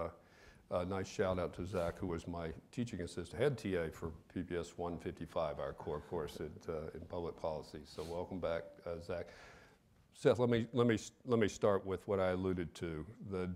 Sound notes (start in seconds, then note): none